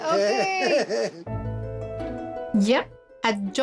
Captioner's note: laughs